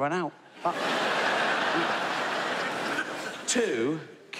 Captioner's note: audience laughs